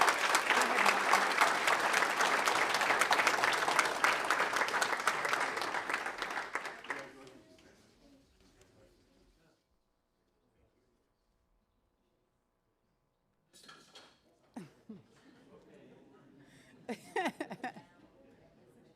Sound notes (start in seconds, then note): 0.0 applause